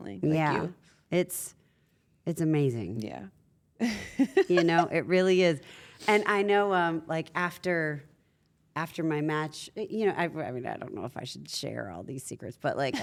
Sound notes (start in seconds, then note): 4.3 laugh